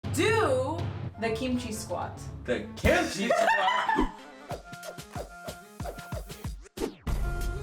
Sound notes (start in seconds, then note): 2.9 laughs loudly; 4.4 hip hop music